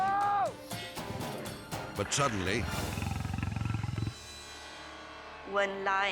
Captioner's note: suspenseful music; lion growling